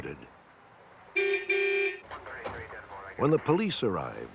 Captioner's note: car horn